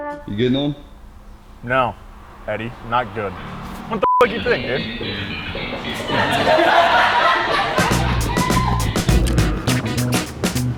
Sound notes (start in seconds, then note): 4.0 beep; 6.3 laughter; 8.1 upbeat music